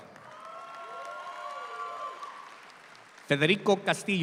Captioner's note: audience applauds